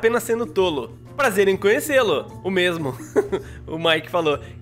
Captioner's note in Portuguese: risos